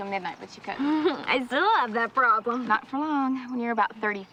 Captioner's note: laughs